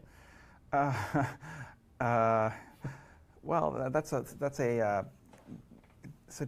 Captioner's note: laughs